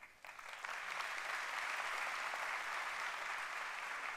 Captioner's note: applause